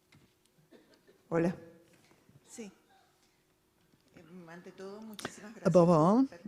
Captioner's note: speaking in foreign language